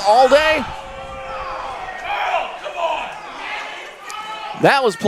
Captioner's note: crowd booing